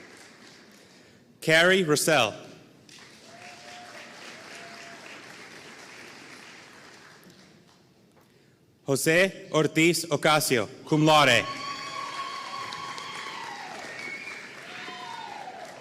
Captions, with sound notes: Carey Roesel (audience cheering and applauding) Jose Ortiz Ocasio, Cum Laude. (audience cheering and applauding)